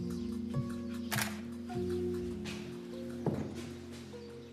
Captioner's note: camera clicking; birds chirping